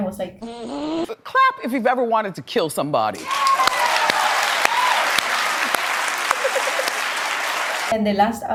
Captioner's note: obnoxious Clapping